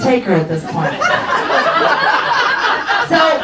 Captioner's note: audience laughs